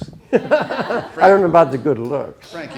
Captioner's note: all laughing